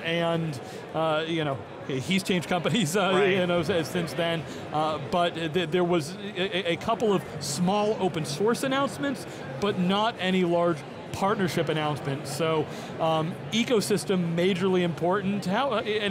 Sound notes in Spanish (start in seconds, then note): 2.7 se ríe